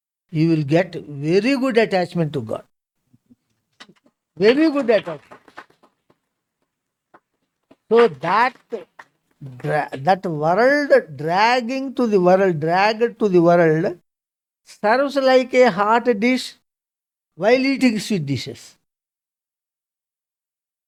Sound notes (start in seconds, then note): 4.4 claps